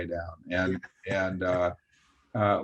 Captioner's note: chuckles